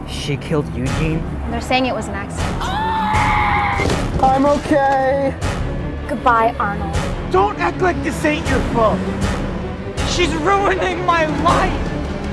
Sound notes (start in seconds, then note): 2.6 screams